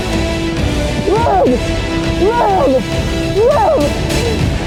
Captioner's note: chattering